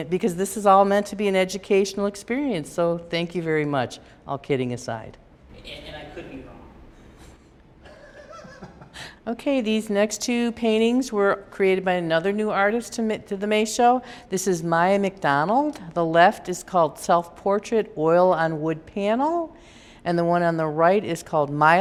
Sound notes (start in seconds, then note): 7.8 laughter